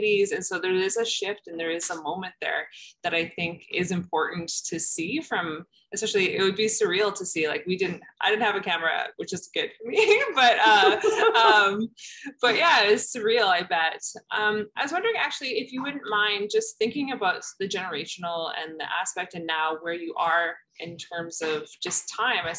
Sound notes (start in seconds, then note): 10.6 laughter